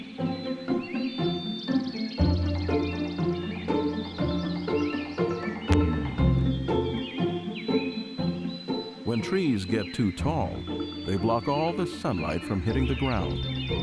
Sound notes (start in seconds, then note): 1.2 birds chirping; 3.7 bright music